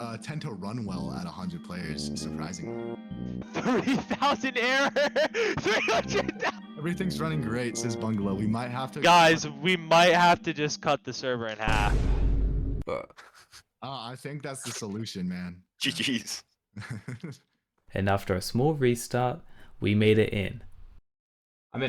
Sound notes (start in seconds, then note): 16.8 laughing